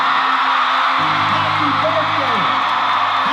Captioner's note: crowd cheering